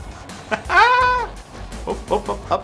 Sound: laughs

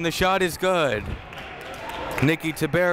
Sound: crowd applauding

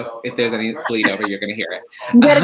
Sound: laughs

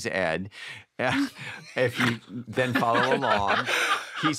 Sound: laughter

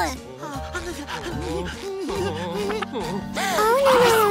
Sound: SpongeBob whimpering

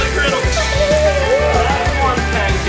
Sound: pan sizzling; child laughing

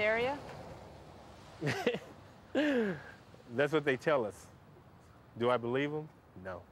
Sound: laughs

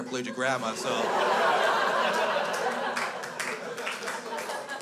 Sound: crowd laughs

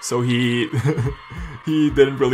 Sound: laughs

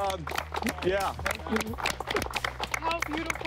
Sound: crew applauding

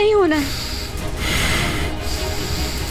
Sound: laboured breathing

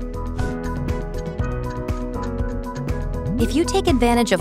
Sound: uplifting music; clock ticking

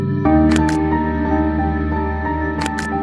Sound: none

